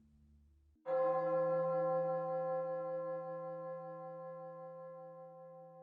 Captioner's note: church bells chiming